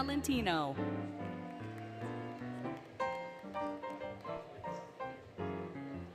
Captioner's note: applause, Cheering, Music